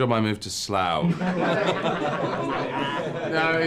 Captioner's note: everyone laughs